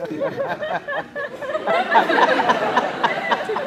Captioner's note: laughing